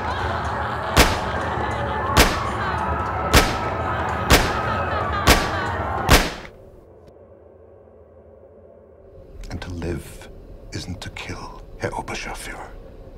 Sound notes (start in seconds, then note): 0.1 screaming; 1.0 gunshot; 1.9 screaming; 2.1 gunshot; 4.2 gunshot; 4.2 screaming; 6.0 gunshot